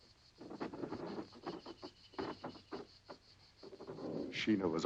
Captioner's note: ropes creaking